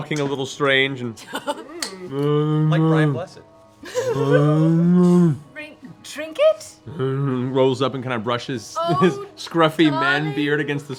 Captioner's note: bear moans